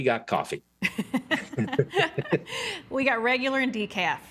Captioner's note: both laughing